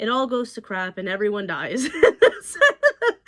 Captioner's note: laughs